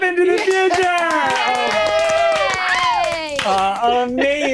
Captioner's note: all cheering